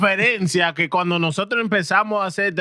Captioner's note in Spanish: Hablando en idioma extranjero